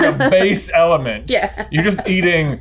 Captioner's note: laughing